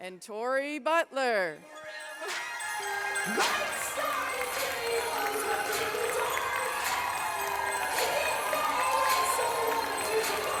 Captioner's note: applause